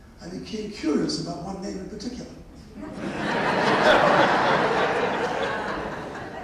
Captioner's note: laughter